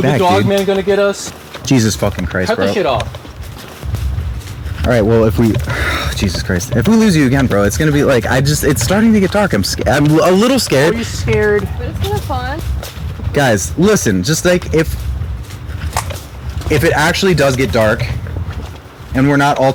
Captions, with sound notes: - Is the Dogman gonna get us? - Jesus fucking Christ. Cut this shit off. All right, well, if we... [sighs] Jesus Christ, if we lose you again, bro, it's gonna be, just. It's starting to get dark. I'm a little scared. - Are you scared? - Well, it could be fun. If it actually does get dark and we're not all together,